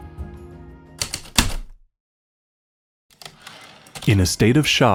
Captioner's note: heavy typewriter keystrokes then return slide